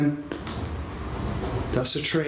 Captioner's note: train goes